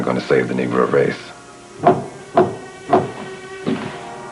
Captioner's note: knocking at door